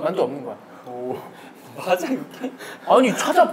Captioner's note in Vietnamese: Cười